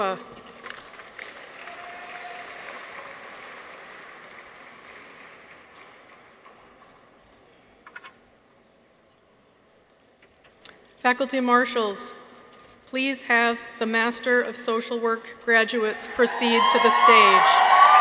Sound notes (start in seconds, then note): 0.7 audience applauds; 1.4 people cheer; 16.5 audience applauds; 17.7 audience cheers